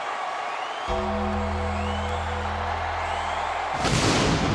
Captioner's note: bell tolls; pyro booms